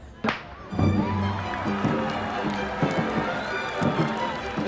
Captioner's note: cheering, applause; wooden clapper sounds